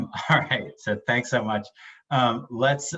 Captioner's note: laughs